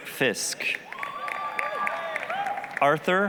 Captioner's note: applause, cheering